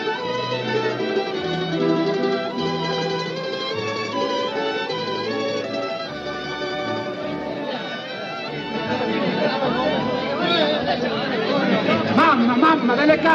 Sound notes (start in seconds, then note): 6.6 soldiers chattering; 11.6 speaks in italian